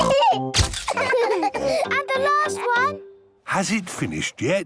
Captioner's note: all laughing